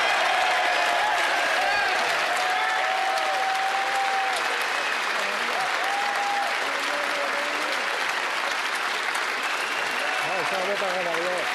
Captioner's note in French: applaudissements